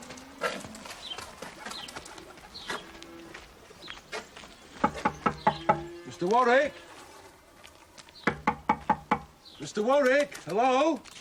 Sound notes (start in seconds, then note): none